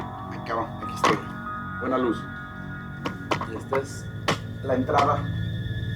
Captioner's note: man speaking in foreign language